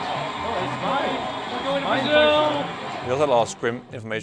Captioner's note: cheering